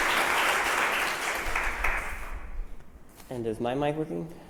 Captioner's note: applause